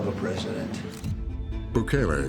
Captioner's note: camera shutter clicks